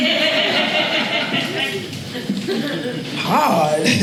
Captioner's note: audience laughing